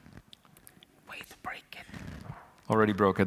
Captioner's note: whispering